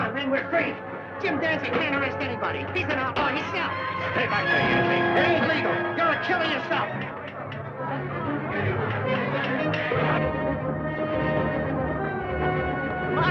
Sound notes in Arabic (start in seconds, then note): 4.6 موسيقى درامية; 7.6 صخب الحشد; 10.3 موسيقى درامية